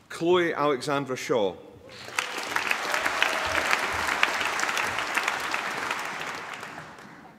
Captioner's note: applause